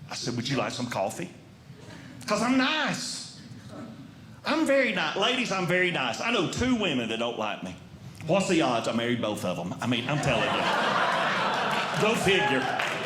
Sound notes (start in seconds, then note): 10.0 audience Laughing; 12.7 audience Clapping